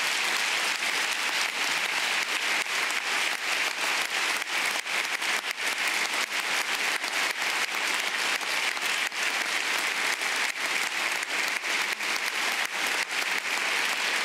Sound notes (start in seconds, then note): 3.0 applause